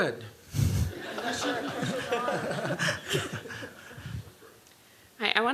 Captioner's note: laughter